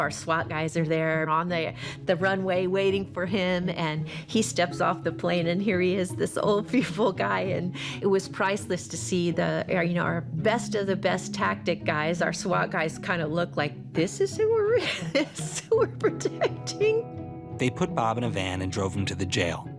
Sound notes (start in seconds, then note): 14.8 laughs